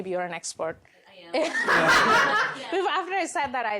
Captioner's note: laughter